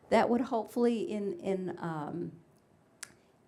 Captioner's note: none